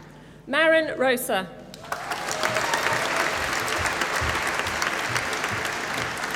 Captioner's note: applause